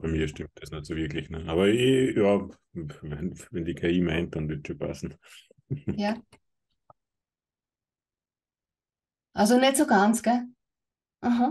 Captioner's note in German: lacht